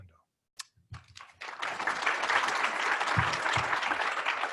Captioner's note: applause